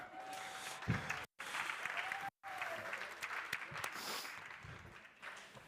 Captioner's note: crowd cheering and applauding